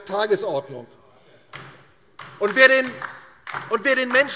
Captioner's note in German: Beifall DIE LINKE